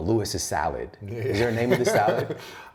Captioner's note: laughs